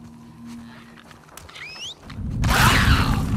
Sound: whistles!!

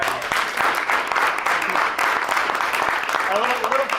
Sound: applause

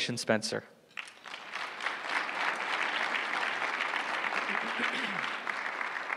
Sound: applause

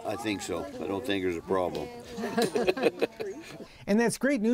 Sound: chuckles

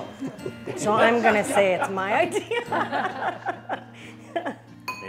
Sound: laughs

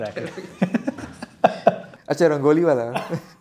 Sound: laughing

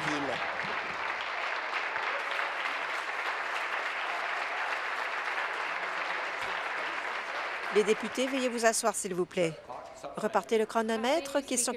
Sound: applause

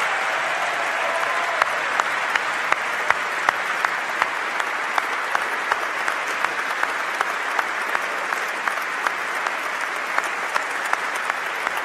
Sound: applause

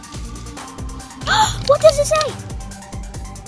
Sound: gasps

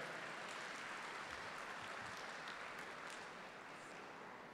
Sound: audience clapping

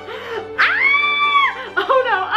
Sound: screams

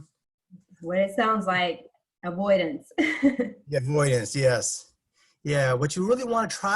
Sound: laugh

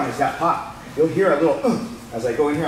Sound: grunts

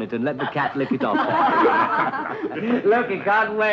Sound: group laughing

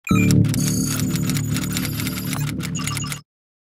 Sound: keyboard sounds

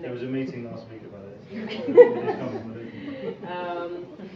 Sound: laughing

